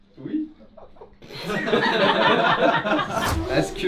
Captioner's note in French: rires